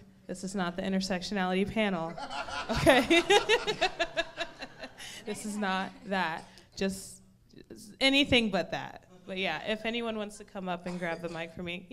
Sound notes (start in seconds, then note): 2.1 audience laughing; 2.1 laughing